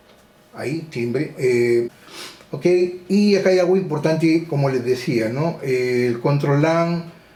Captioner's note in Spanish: resoplido